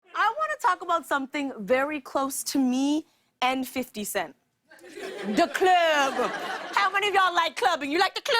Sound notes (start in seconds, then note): 4.7 laughter